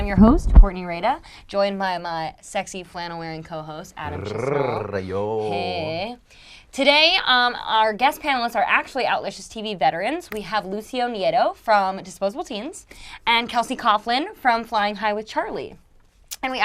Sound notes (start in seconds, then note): 4.0 growls